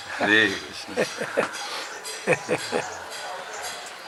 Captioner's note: laughter